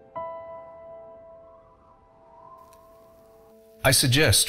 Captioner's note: piano music; wind blowing